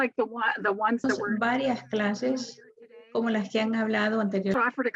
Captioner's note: woman speaks foreign language